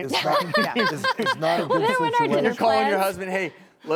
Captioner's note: laughing